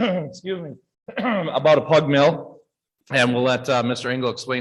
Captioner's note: clears throat